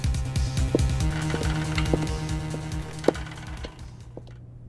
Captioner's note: footsteps, wheelchair rolling